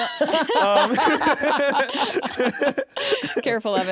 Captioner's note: laughter